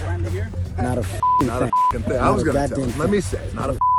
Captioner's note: beep